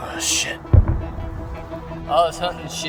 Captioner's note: distant Explosions